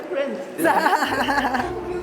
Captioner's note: laughs